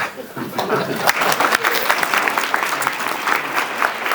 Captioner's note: audience applauds